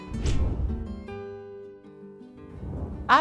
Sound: air swishes; air swishes

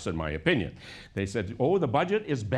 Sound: none

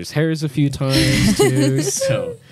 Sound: laughs

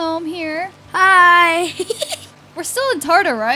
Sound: giggles

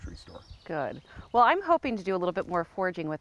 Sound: none

